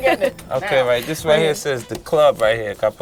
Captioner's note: laughs